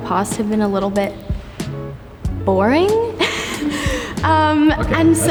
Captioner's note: laughs